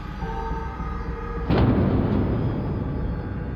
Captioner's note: bangs